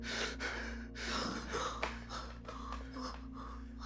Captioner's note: Jeremy breathing heavily; Mrs. Hill, muffled